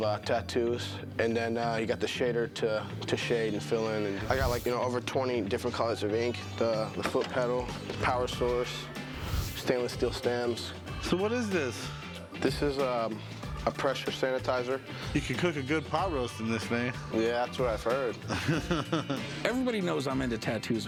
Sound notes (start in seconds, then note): 18.1 laughs